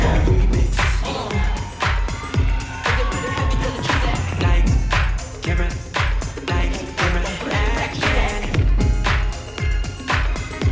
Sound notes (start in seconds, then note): 2.6 audience cheering